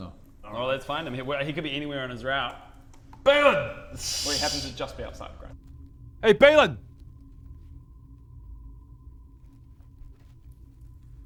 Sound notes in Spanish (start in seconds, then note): 8.3 Completo silencio